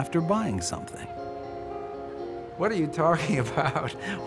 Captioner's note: laughing